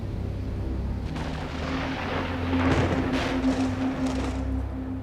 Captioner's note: thunder claps